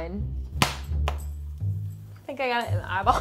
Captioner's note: corn popping